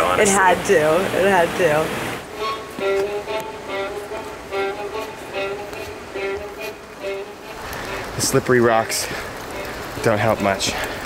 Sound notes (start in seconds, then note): 3.0 rain falling